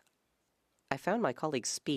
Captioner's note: speaking French